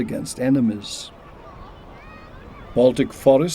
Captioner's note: beachgoers chattering